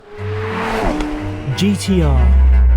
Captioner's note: motor humming